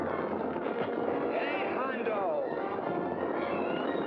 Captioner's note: crack; dramatic music; hooves pounding